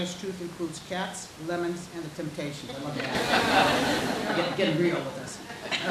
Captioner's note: audience laughing